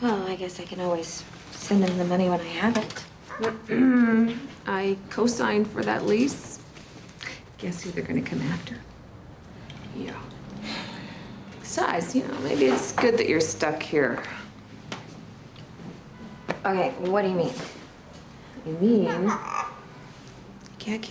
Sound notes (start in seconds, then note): 3.6 clears throat; 10.5 sighs; 19.0 kitty squawks